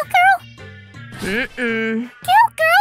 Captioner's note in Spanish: gruñido de desaprobación